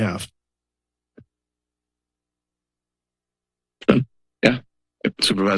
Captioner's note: silence